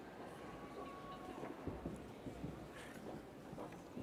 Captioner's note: people cheer